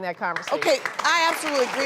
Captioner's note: applause